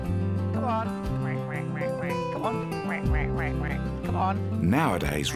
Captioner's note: quacks